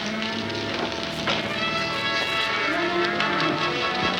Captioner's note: cows mooing